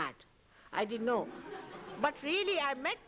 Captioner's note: laughter